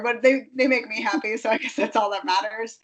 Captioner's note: laughing